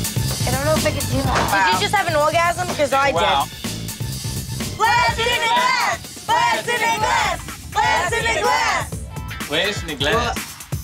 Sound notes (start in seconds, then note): 4.1 chanting together; 7.1 cheering